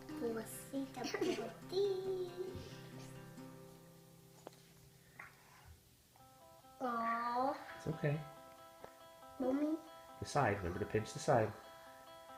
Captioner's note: giggling